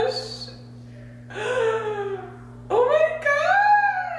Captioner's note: gasps